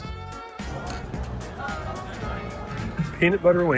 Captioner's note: glasses clink